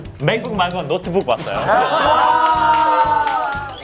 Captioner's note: genuine laughter